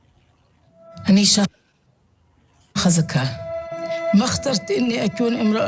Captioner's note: speaking in foreign language